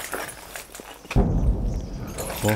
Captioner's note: more explosion in the background